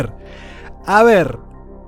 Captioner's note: inhales